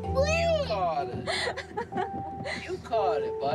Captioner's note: laughs